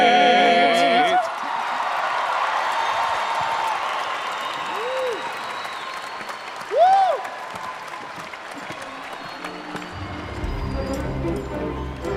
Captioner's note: cheering and Applause